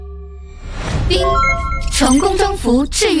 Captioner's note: ding!